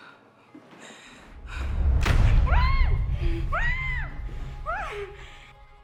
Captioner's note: dramatic musical sting; screams